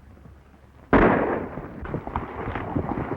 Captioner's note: gunshot